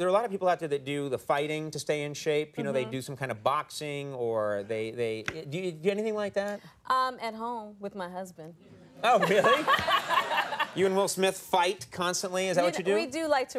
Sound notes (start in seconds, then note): 9.0 Jada and audience laughing